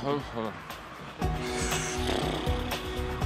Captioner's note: exhales